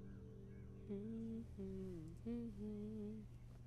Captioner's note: Jannat humming